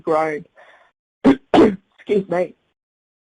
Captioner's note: coughing